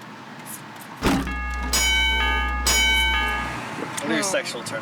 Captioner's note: bell ringing